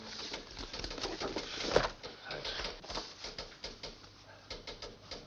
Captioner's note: person typing